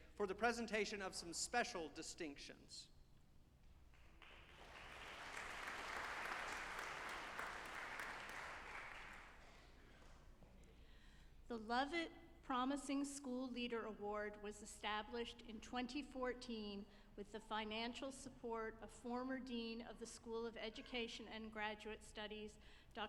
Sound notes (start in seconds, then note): 3.9 audience applauding